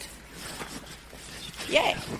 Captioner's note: hands rustling softly